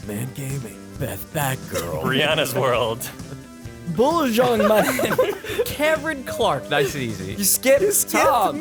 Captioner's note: laughter